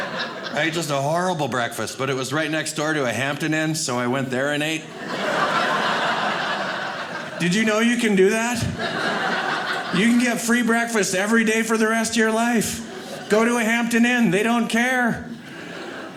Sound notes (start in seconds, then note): 4.8 audience laughing